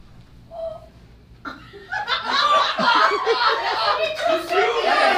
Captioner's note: audience laughs